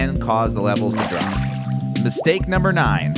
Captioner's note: water splashes